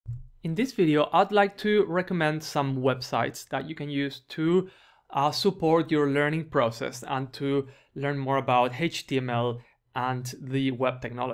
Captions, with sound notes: - [Voiceover] In this video, I'd like to recommend some websites that you can use to support your learning process and to learn more about HTML and the web technologies.